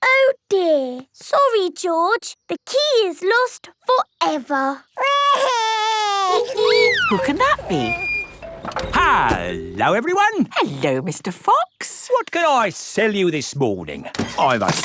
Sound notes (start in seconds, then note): 6.1 wailing; 6.4 honking